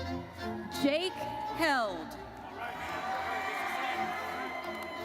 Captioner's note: audience cheers